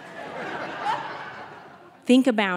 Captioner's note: audience laughing